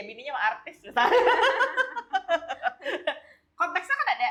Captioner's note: laughs